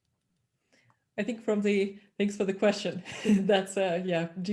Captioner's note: chuckles